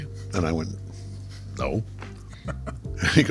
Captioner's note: laughing